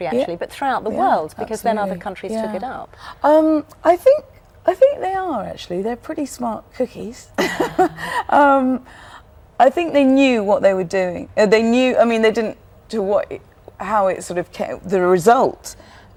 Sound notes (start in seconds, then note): 7.4 laughter